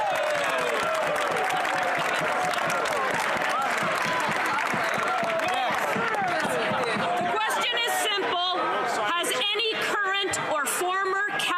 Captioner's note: some Applause